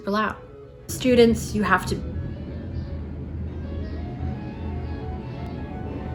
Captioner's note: motocycle sounds